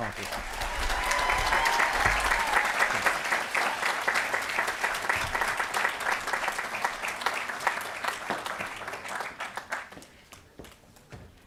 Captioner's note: applause & Cheering